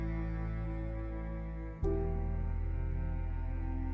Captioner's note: none